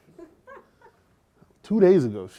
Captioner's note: laughter